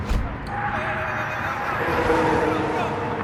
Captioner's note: traffic roaring